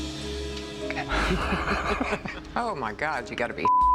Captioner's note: laugh